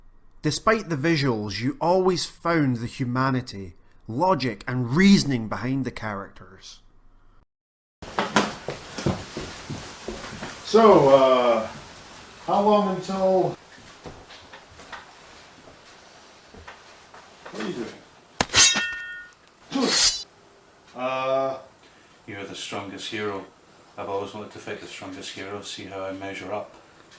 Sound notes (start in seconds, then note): 19.7 sword SFX